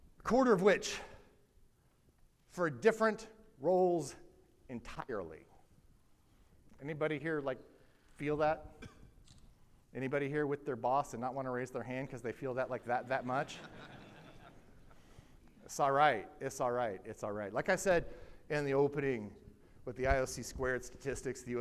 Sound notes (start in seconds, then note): 12.7 audience laughing